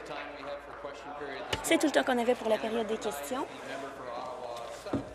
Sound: applause

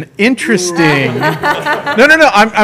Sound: laughter

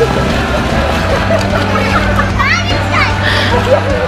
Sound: laughing

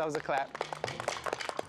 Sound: applauding

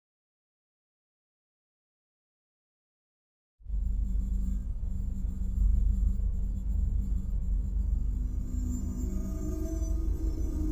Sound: sound of old lab

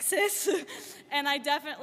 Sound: lauging

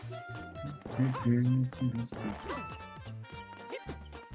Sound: humming along

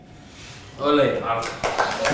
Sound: applause and celebration

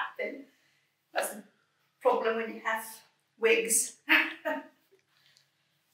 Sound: laughs

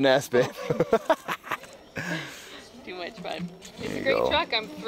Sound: laughing

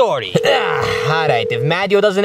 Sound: phone ringing

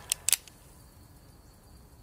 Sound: click

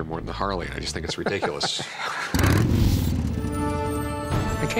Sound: motorcycle rumbling

